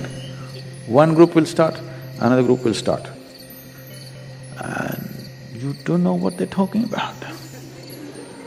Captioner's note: laughter